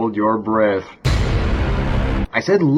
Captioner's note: duuuuuuuuuunnn